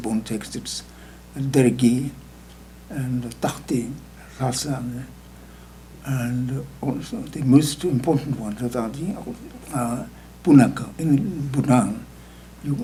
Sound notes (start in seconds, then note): 2.2 speaking tibetan; 9.8 speaking tibetan